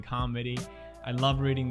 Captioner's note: inhales